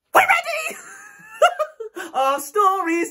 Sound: laughing

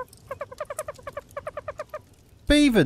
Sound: squeaking

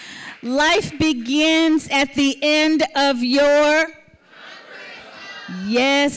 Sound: audience says ‘comfort zone’

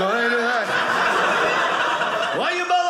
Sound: audience laughing

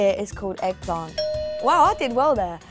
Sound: bell ringing

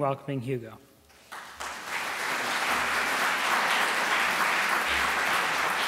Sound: applause

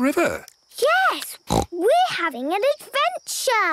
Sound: snort

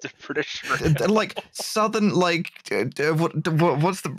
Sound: laughs; stammering

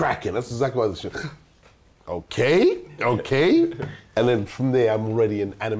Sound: gasps

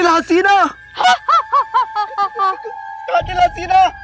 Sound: laughing

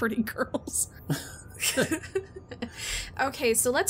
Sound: laugh

